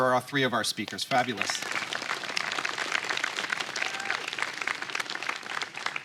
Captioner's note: applause